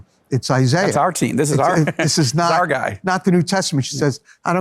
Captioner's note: laughs